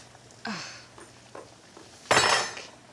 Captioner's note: Alex sighing